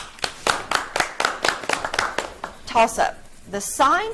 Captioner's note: audience clapping